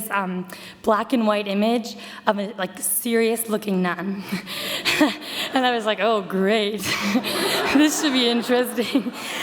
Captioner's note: audience laughter